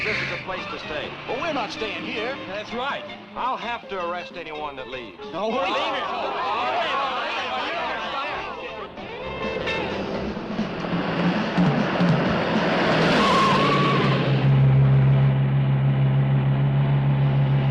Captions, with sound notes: - Sheriff says this is the place to stay. - But we're not staying here. - That's right. - I'll have to arrest anyone that leaves. (teens clamoring) (tires screeching)